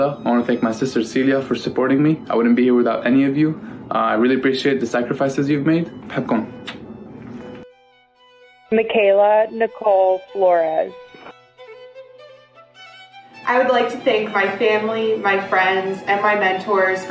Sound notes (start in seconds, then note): 5.9 non-english speech